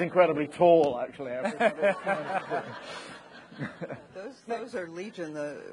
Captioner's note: people laughing